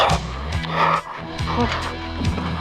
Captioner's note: Buzz panting and moaning